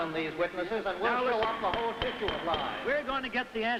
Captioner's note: commotion; banging gavel